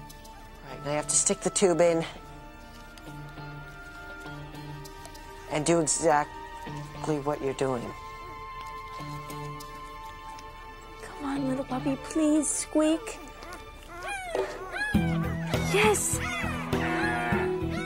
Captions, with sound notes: All right, now you have to stick the tube in. And do exactly what you're doing. (suspenseful music) - Come on little puppy, please squeak. (dog squeaking) Yes.